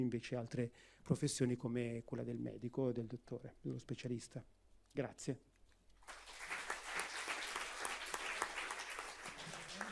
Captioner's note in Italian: Applauso